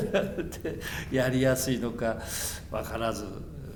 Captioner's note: laughs